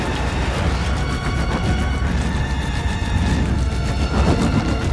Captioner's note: whirring